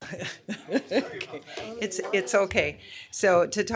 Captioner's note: laughter